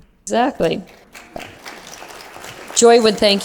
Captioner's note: applause